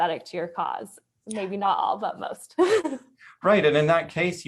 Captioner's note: chuckles